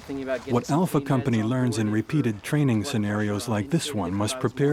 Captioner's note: voiceover